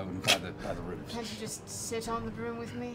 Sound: laughing

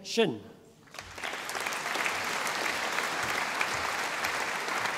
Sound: audience applauding

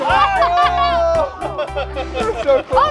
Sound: group cheering; laughing

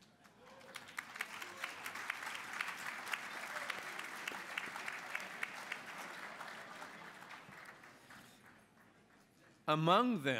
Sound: applause

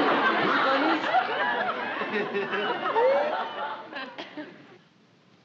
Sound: squeals

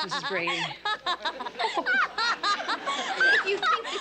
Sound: chuckles

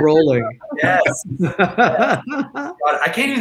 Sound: all laughing

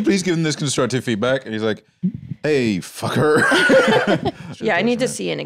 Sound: laughs

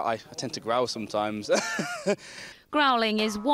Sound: laughter

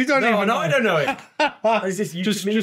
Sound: laughing

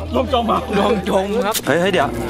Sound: chuckles

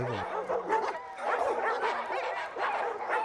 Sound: dogs barking

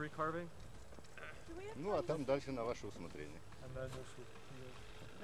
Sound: russian speech

